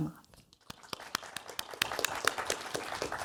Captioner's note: applause